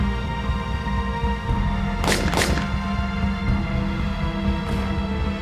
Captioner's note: gunshot cracking continues